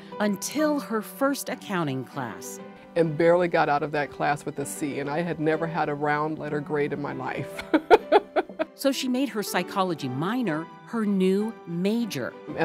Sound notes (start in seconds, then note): 7.6 laughs